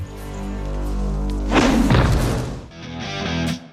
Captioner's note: thud